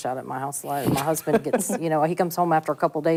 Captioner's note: laughs